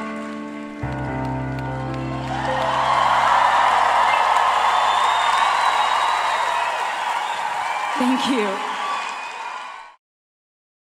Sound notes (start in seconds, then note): 2.3 applause